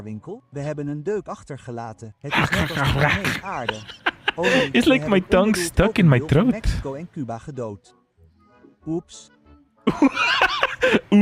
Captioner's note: laughter